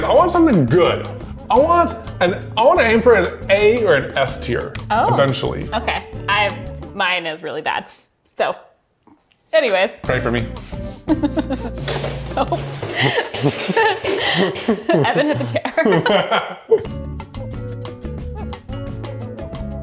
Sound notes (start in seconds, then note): 12.0 hitting furniture; 16.5 both laughing; 17.3 soft music